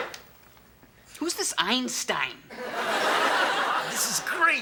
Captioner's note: audience laughs